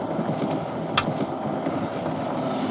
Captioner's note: knob clicks